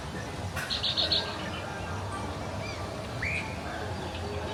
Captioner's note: birds tweeting